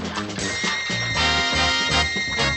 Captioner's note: ALARM RINGlNG